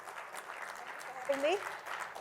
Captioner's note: applause